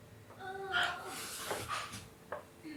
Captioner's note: groans